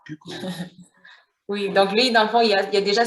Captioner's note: laughter